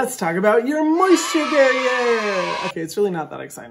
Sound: kids cheering

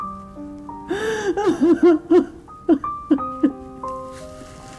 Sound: sobs

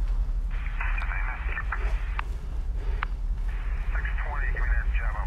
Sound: police radio chatter

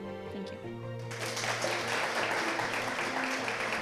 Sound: applause

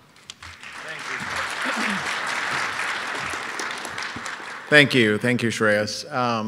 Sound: audience applauds

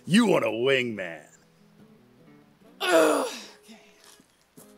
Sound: deeply frustrated sigh

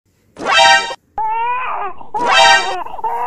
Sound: baby crying

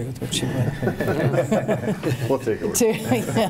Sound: laughing

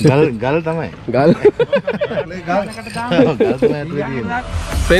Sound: laughing

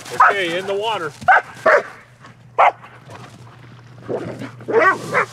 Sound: dogs barking

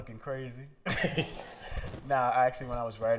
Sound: laughter

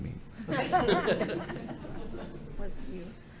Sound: everyone laughing

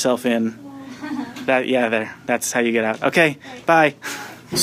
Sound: laughing

